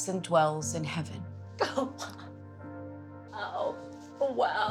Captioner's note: crying